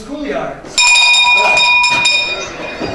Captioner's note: bell ringing